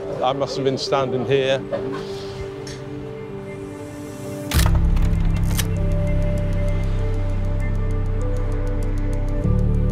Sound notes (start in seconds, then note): 3.1 gentle music; 5.3 camera shutter clicking